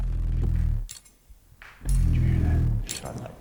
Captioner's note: faint rattling